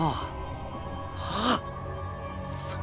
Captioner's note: gasp